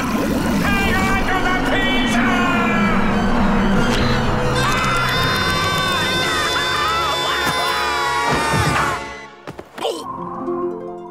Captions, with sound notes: Hang onto the pizza! [screaming]